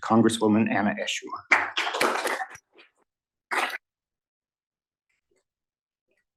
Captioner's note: applause